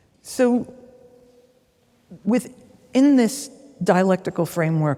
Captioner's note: none